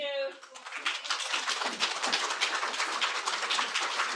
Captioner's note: crowd applauds